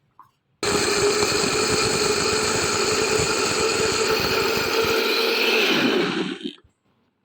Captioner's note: grinding